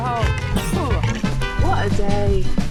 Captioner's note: cough